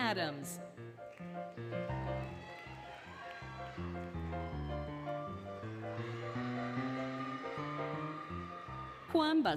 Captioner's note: applause, Cheering, Music